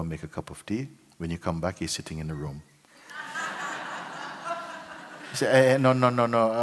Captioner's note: laughter